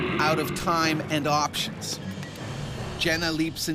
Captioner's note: voiceover